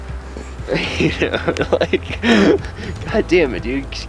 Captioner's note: laughing